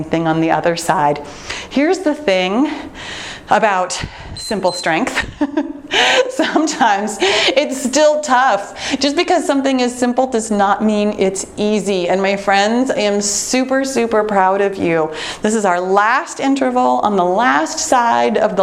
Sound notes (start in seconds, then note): 4.3 timer beeps; 5.1 chuckles